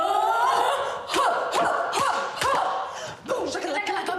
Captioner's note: grunting